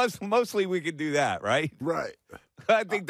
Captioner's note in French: laughter